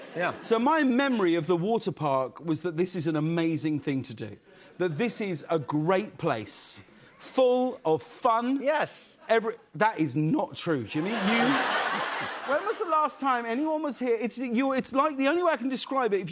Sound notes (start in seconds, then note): 11.0 laughter